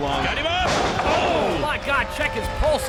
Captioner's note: crowd exclaims